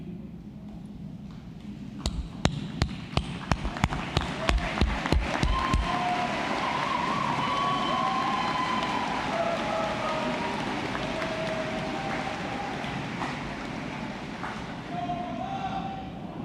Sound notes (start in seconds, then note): 3.2 applause